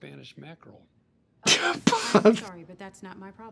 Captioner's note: laughs